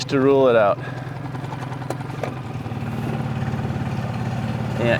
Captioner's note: motor burbling